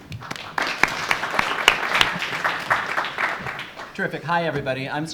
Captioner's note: audience applauds